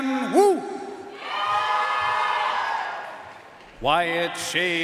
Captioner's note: audience cheering and applauding